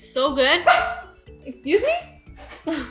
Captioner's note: dog barking